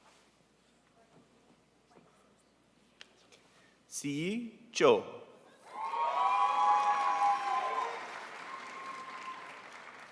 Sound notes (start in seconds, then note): 5.7 crowd applauds